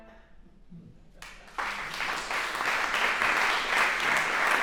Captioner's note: applause